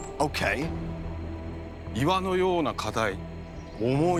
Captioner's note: speaking Japanese